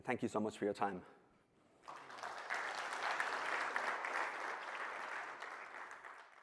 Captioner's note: applause